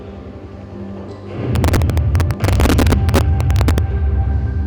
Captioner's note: explosion